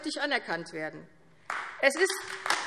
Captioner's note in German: Beifall AfD